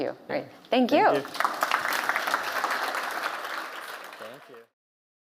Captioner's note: applause and cheering